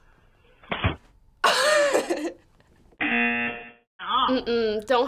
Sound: laughs

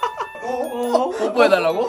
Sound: he's kinda laughing???

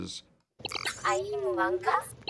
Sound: inquiring in foreign language

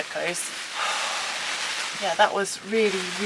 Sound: sigh

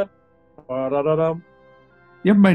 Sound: hums addams family theme

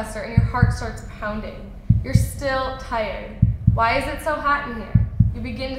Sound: sound of beating heart

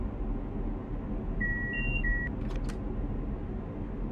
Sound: alerter beeping

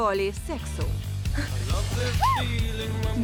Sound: panting

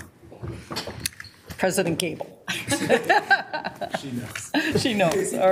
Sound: laughs

